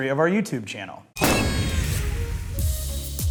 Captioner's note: bright music; party horn blows